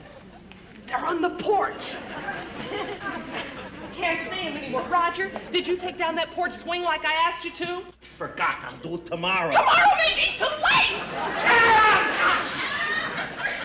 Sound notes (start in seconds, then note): 9.5 yells